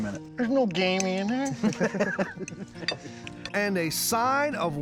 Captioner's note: laughing